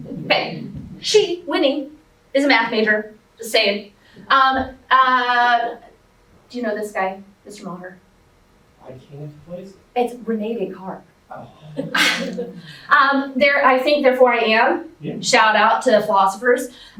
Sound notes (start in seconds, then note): 11.4 chuckles